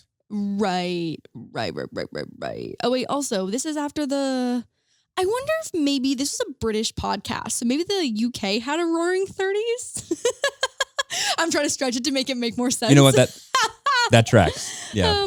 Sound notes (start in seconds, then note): 9.9 laughing